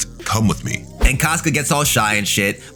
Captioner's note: air whooshing